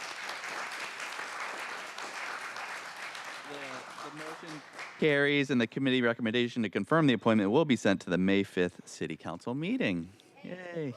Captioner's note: cheers and applause